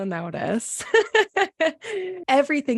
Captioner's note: laughs